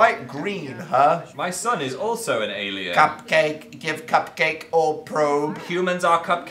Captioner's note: robotically